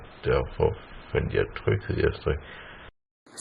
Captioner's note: in Danish